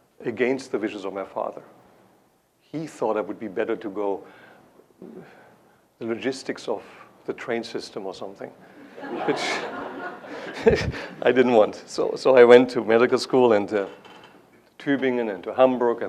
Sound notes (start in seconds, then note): 8.8 laughter; 8.9 laughs